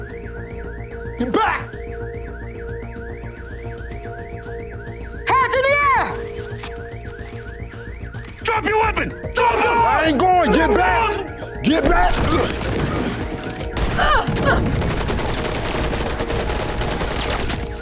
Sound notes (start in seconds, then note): 13.3 grunts; 15.3 gunfire